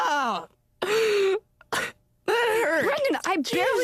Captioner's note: crying